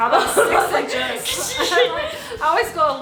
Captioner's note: laughs